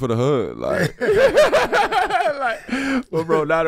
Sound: group laughs

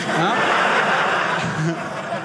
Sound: audience laughing

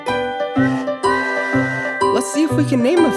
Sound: train whistling

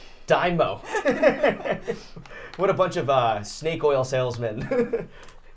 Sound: laughing

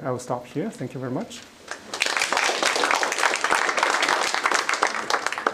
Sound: applause

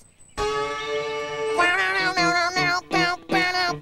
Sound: imitating guitar

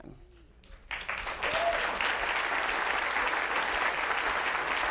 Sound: audience applauding

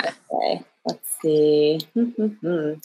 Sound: humming

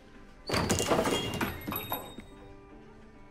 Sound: door chime rings

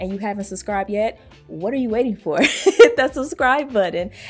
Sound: chuckles

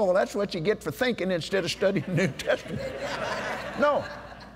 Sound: laughter

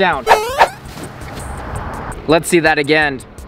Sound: electronic beeping

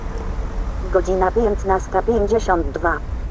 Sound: the announcement is played in Polish

